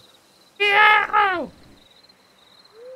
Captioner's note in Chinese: 怪叫